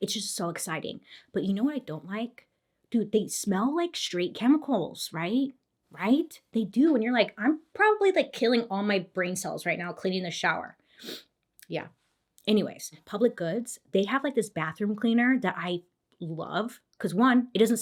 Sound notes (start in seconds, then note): 11.0 sniffs